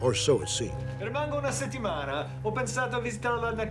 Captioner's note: speaking foreign language